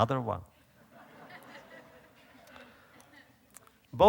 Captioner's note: audience laughter